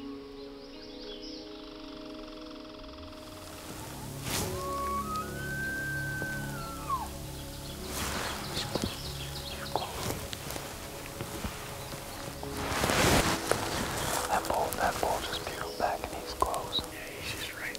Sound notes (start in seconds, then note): 4.9 elk bugles; 9.7 whispers